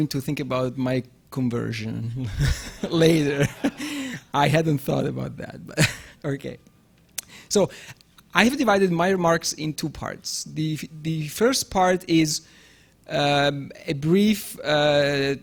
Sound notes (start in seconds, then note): 2.2 laughing; 3.9 audience laughing